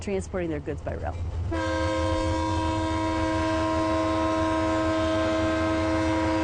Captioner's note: train horn blares; diesel train engine rumbles